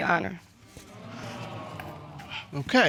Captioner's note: audience exclaiming